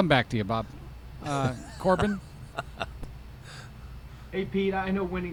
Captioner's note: Pete laughs